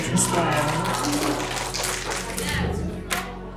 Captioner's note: finger snapping